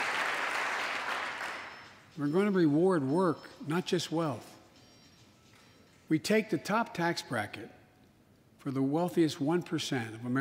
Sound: applause

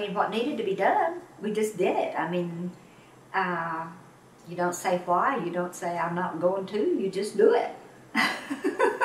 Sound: laughs

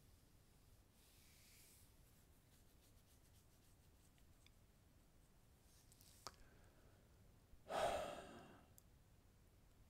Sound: sigh

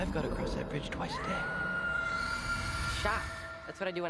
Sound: screaming

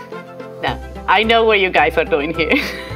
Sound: laughs

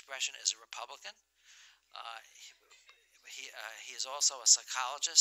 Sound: laughter

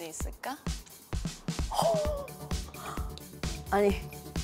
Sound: gasp

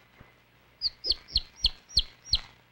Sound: chirping

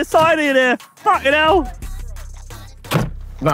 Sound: car door slamming

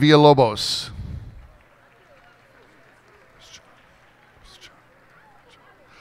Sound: cheers and applause

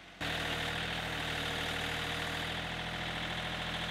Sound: engine purring

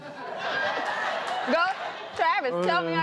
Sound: crowd laughing

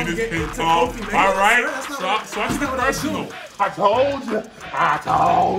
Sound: laugh

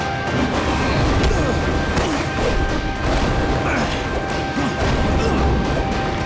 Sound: grunting

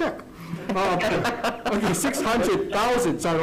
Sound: laughs

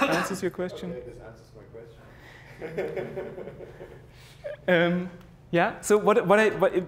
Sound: laugh

